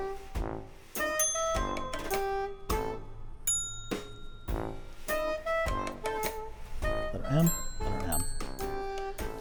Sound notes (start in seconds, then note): 1.1 bell dinging